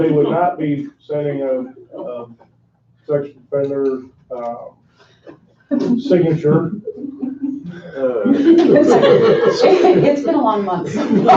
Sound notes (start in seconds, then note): 8.6 crowd laughing